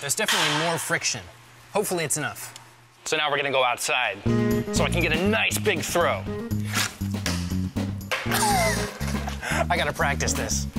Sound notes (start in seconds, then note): 8.7 disc clanging